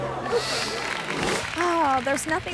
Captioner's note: audience clapping